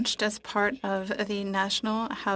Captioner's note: speaking French